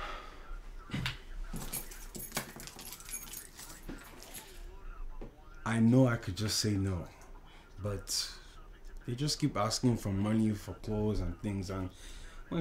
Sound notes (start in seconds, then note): none